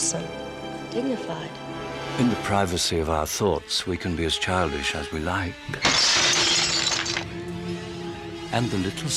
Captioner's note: crash